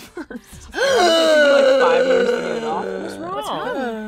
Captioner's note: gasping dramatically